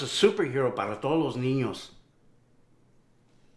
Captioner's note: Spanish